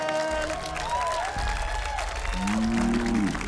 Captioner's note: cheering, applause